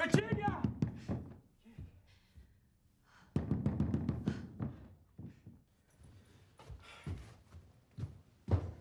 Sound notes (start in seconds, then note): 0.7 banging